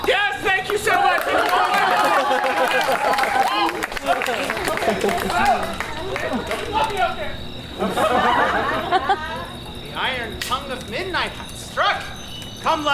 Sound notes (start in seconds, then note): 1.7 audience applauds; 8.2 audience laughs